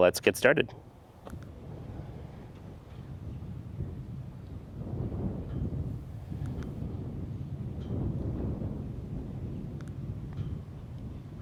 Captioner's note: wind blowing